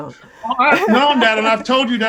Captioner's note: laughs